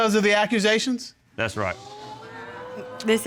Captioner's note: audience exclaiming